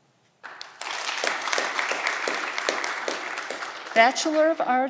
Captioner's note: audience clapping